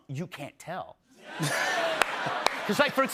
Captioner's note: laughter